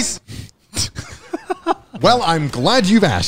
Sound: everyone laughs

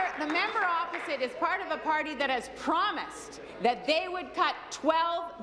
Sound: applause

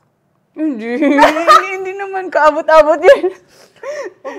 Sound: laughs

